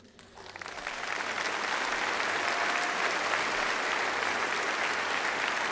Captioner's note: applause